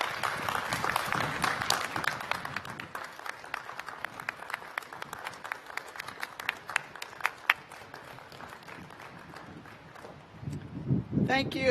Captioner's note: applause